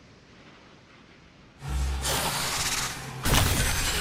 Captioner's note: alien hissing